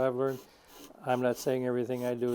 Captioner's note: sandpaper scraping